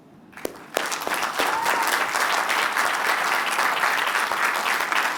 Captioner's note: applause